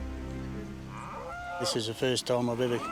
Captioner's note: cow lowing